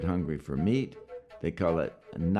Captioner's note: speaks Yanomami